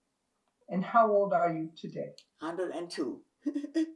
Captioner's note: laughing